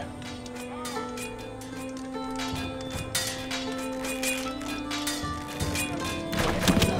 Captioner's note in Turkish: Kılıç sesleri; Ok sesleri